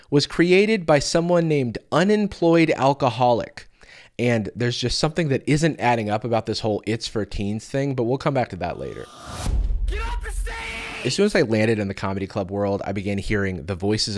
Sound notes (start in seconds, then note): 8.8 get off the stage! sound byte